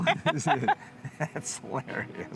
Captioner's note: laughing